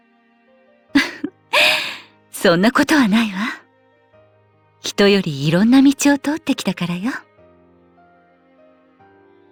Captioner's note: laugh